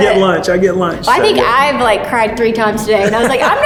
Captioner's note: laughs